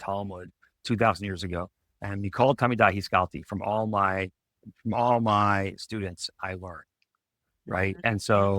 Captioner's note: speaks in Hebrew